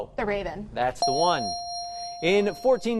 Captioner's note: bell dings